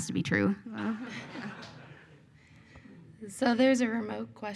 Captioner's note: audience laughs